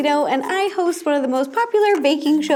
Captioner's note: none